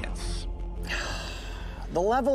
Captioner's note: Coyote sighs